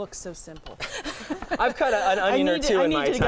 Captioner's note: laughing